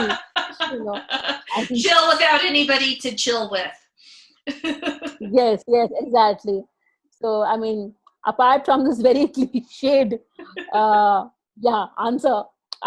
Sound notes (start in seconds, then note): 0.0 laughs; 4.6 laughs